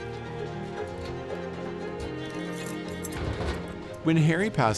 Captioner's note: inspirational music; keys clinking; cupboard banging